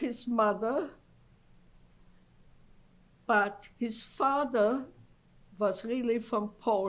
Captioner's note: pauses for 3 seconds